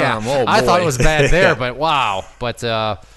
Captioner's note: snickers